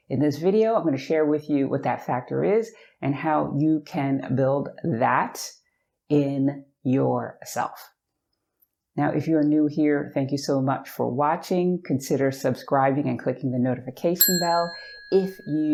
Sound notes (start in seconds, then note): 14.2 bell dinging